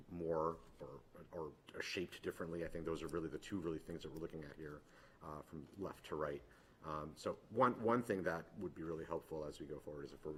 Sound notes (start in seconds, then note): none